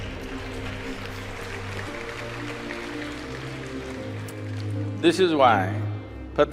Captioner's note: A few laugh, applause